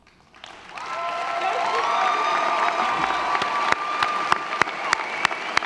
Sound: audience applauding; audience cheering

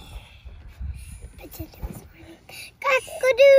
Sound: whispering

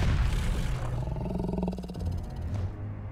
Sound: growling

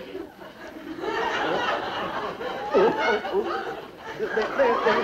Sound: audience laughs

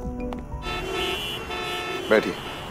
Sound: traffic noises

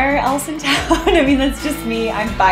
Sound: laughing

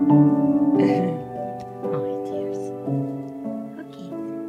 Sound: baby talk

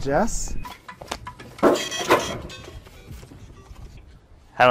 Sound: nerdy trademarked ringtone

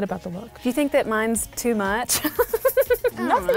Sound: laughs

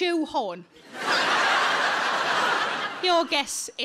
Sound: audience laughs

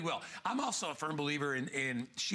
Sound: laughter

